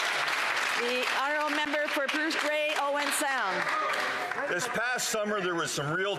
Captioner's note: some Applause